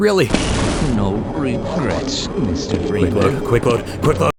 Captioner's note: zap